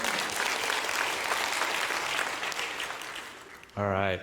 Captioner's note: audience clapping in the background